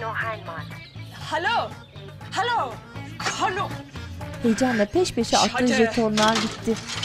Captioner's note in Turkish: Kadın - Almanca konuşma; Almanca konuşma